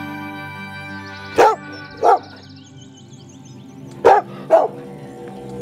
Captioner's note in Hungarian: Dogs barking